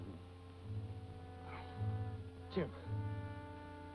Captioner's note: sighs